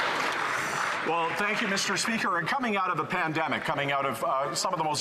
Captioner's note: some Applause